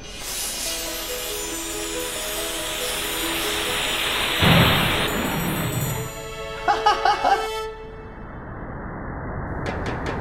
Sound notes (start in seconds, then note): 0.0 loud magical music; 6.6 laughs